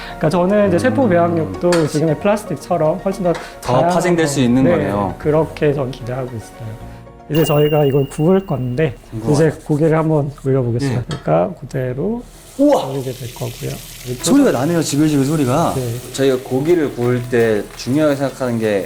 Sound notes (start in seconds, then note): 12.2 the sound of real meat cooking